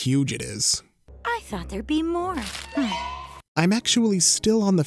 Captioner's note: scoffs